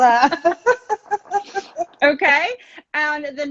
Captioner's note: both laughing